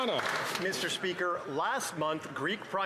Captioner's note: some Applause